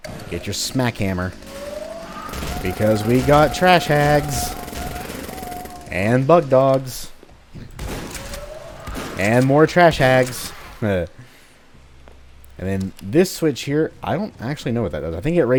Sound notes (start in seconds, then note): 1.2 Trash Hags howling; 1.8 Smackie rampaging, Bugdogs snarling; 7.7 Shotgun blast, MOAR Trash Hags howling